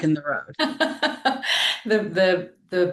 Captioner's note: laughing